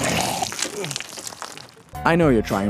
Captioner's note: pukes